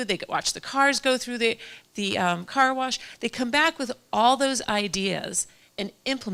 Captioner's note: none